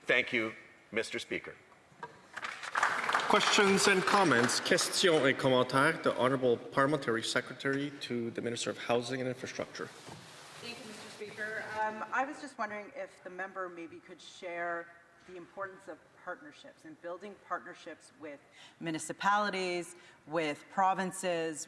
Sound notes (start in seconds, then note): 6.2 some Applause